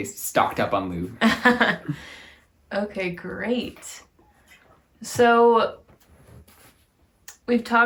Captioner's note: laughing